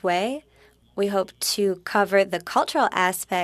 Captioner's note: speaking French